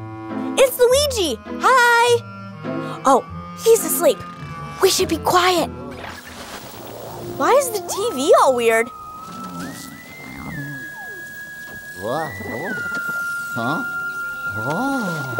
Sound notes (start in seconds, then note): 2.9 whispering; 9.2 eerie orchestral music